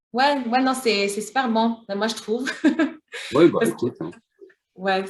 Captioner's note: laughter